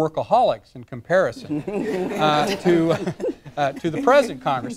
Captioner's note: laughter